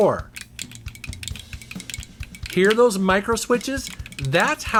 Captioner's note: controller clicks